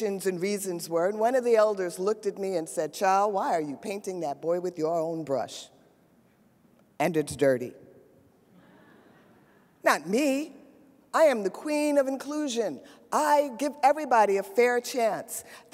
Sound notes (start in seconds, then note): 8.5 audience laughs